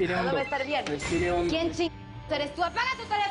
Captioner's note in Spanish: Suena un celular